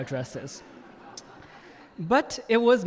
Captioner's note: audience laughing